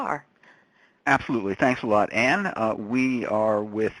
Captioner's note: voiceover